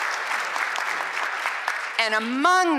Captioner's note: applause